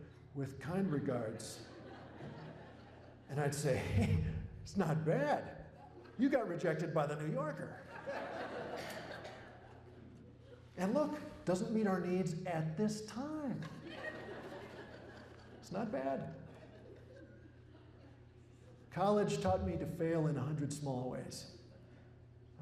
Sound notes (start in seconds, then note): 12.0 laughter